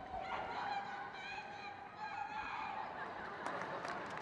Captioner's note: crowd cheers